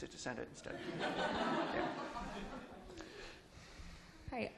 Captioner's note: laughter